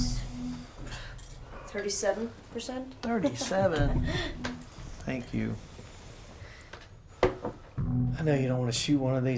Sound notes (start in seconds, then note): 3.1 chuckles